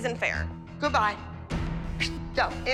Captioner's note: whooshes